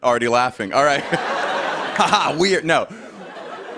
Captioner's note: laughter